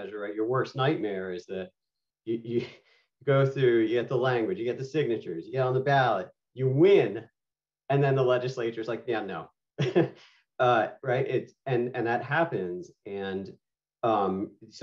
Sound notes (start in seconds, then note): 9.8 laughter